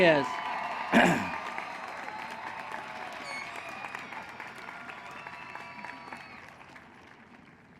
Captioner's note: cheering